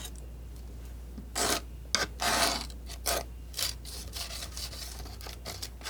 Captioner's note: scratching